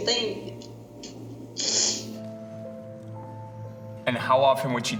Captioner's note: sniffles